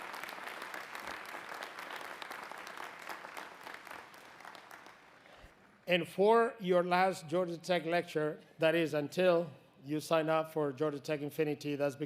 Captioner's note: applause